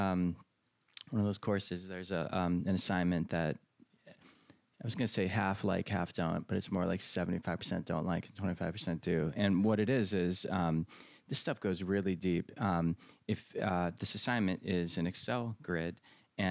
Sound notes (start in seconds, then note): none